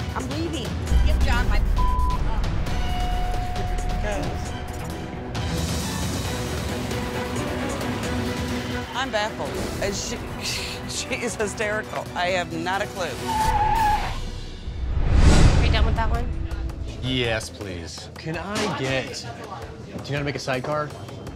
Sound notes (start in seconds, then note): 1.5 beep